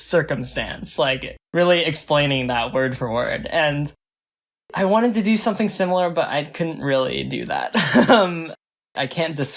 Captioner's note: laughs